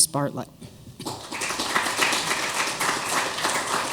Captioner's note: applause